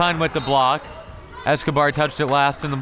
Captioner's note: whistle tweeting